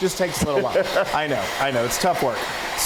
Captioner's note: laugh